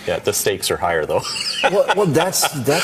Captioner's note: man laughing